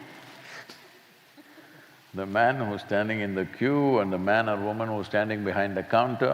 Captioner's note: laughter; laughs